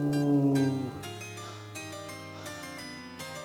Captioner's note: growling; panting